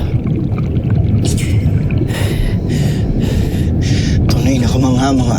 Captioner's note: mystical music playing; panting